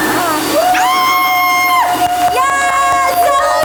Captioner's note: everyone cheers